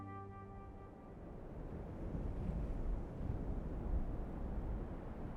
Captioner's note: wind whipping